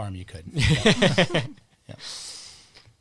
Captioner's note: both laughing